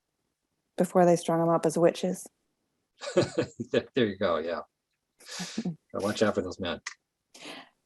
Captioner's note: laughing